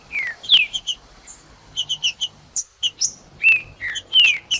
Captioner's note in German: trinca ferro cantando; trinca ferro cantando